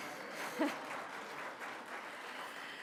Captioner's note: applause